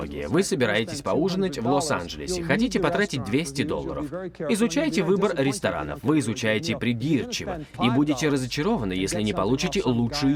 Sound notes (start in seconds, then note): none